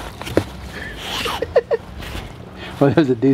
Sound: laughs

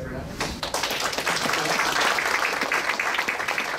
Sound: clapping

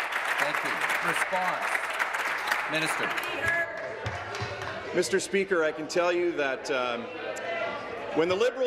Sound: applause

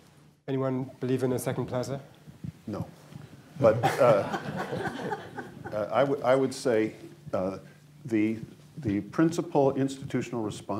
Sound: laughter

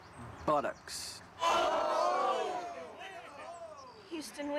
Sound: crowd gasps loudly

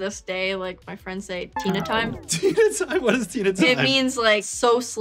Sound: laughs

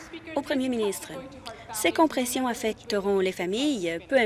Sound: applause

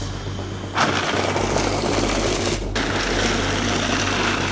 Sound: blender whirls

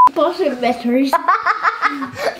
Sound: beep noise; laughter

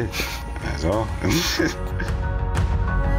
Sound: chuckles; mellow music

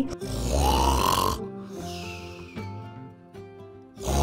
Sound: softly singing; Ms. Appleberry interrupted by loud snore; snoring Loudly

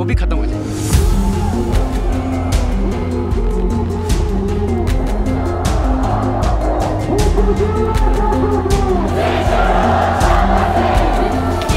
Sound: climate activists protesting

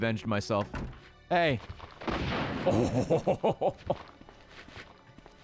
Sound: laughs

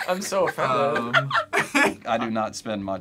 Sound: React laughs; laughs

